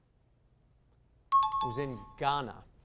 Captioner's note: high-pitched tones